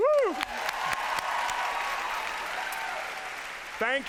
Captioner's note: applause